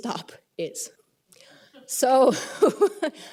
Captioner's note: laughter